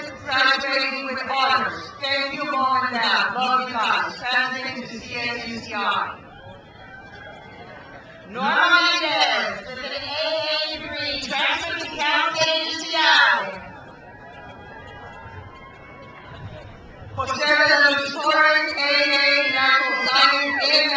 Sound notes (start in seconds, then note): 6.4 crowd cheers